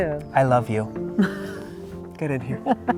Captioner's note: chuckling